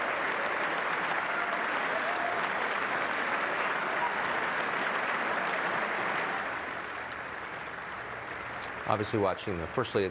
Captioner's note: applause